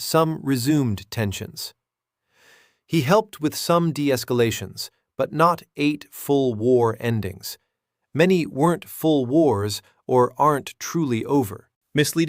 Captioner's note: exhales sharply